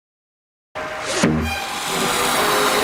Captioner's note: shoomp